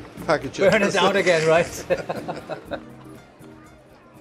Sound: laughs

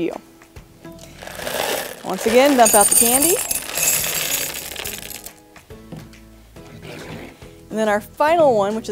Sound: candy rattles

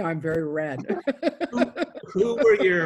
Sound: laughs

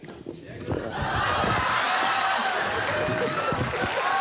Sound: crowd cheering

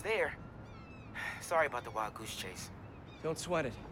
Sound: sigh

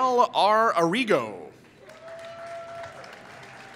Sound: applause

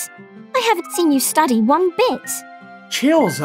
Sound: video game sounds

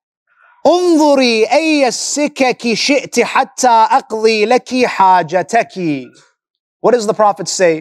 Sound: Arabic

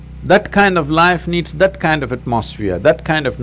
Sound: none

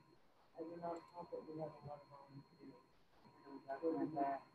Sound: speaking faintly

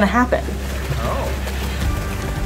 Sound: background music; water splashing noise; background music; water splashing noise

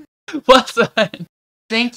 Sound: giggles

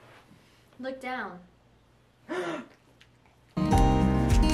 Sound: gasps; sunny Day Music

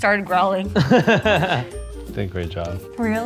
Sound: laughs

